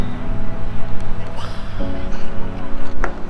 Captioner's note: screams